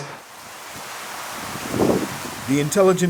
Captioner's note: rain falling